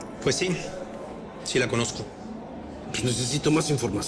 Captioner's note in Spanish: none